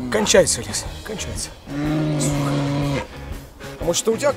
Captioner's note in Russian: рёв